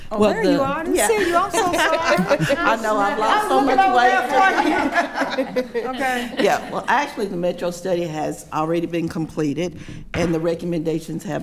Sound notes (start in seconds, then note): 2.9 multiple people speaking and laughing